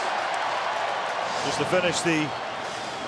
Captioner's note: pa announcement; cheering